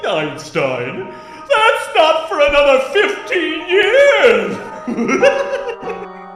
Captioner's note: laughs